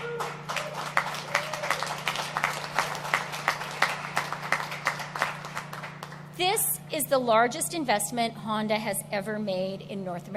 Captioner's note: applause